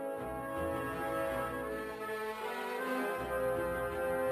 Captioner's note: none